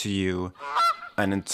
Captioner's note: goose squawk returns